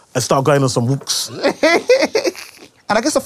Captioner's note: laughter